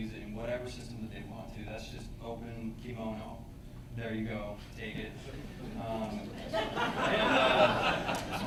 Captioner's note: laughter